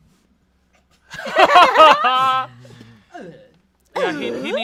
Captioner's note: everyone laughs